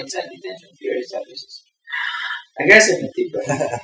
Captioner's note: deep breath